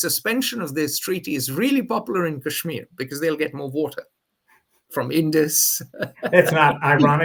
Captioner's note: laughs